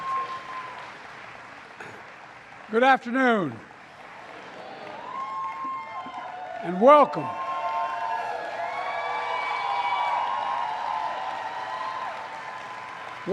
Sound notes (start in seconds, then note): 5.4 applause; 10.4 applause